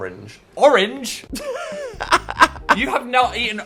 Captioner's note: laughs